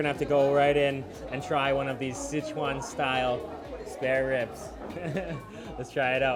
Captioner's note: laughs